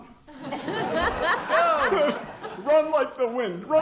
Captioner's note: laughter